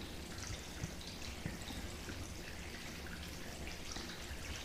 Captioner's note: water dripping